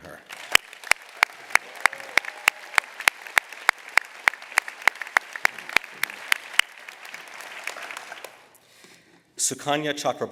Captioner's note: applause